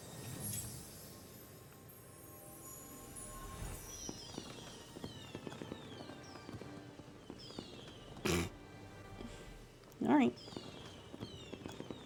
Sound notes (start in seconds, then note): 8.2 snorts